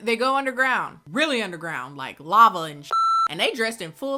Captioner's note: beeps